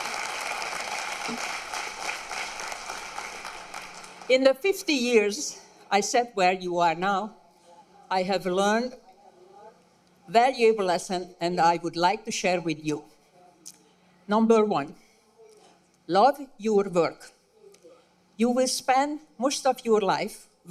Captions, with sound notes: [APPLAUSE] IN THE 50 YEARS I SAT WHERE YOU ARE NOW, I HAVE LEARNED THAT LESSON THAT I WOULD LIKE TO SHARE WITH YOU. NUMBER ONE, LOVE YOUR WORK. YOU WILL SPEND MOST OF YOUR LIFE